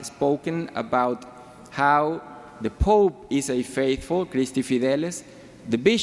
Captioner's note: speaks foreign language